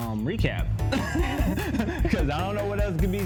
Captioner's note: both laugh